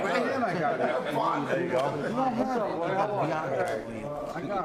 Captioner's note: all chattering